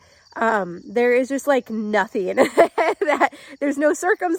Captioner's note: laughing